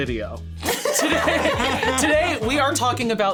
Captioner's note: all laughing